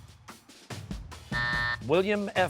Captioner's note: buzzer